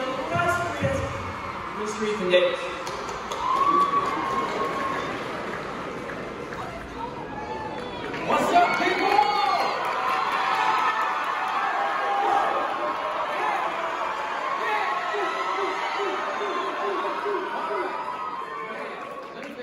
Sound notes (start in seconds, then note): 3.0 claps and cheering; 10.1 cheers & Applause